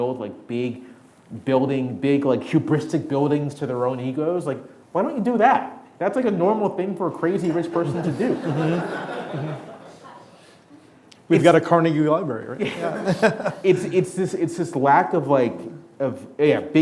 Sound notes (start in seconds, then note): 9.1 audience laughing